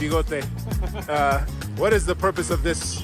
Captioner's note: laughs